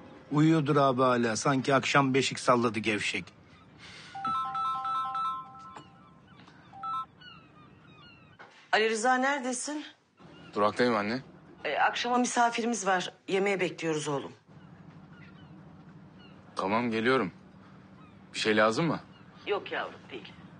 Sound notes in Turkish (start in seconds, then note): 4.1 telefon çalar